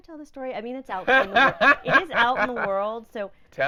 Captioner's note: laughing